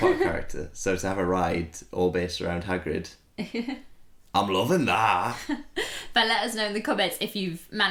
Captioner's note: Hagrid Voice